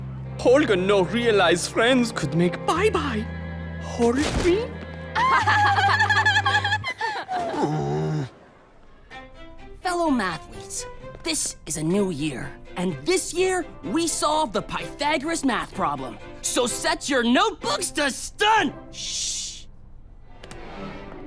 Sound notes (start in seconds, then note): 5.1 giggle; 7.4 groans